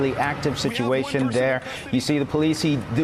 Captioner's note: speaking spanish